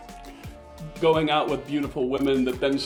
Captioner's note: Latin